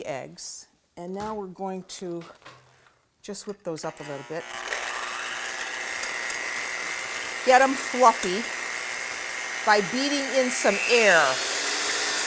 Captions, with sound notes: So there are the eggs. And now we're going to just whip those up a little bit. [WHIRRING] Get them fluffy by beating in some air.